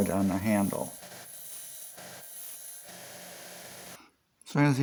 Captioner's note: grinder sounds